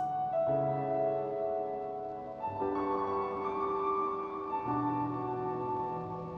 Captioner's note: soft dramatic music; white static